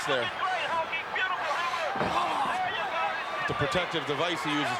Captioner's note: crowd roaring